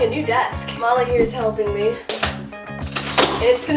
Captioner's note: cardboard ripping